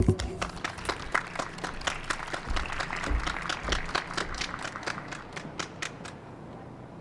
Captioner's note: applause